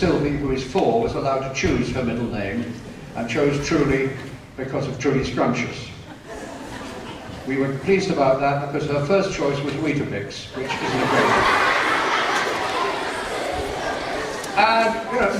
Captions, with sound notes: who is 4 was allowed to chose her middle name and chose truly because of truly scrumptious We were pleased about that because her first choice was Weetabix (laughter)